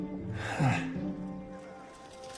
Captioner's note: nervous laugh